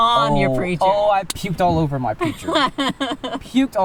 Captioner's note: laughs